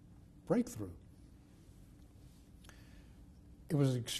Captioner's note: pauses for 3 seconds